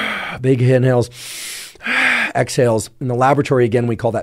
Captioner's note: inhales; exhales; inhales and exhales